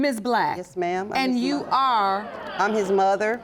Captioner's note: audience murmuring